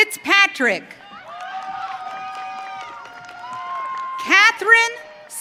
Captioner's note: audience cheering